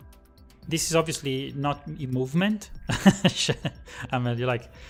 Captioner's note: laughs